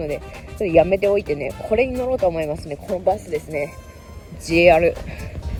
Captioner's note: walking